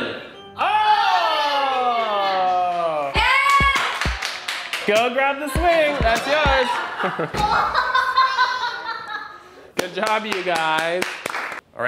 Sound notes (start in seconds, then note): 3.4 clapping; 8.0 laughing